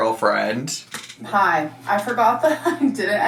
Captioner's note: laughing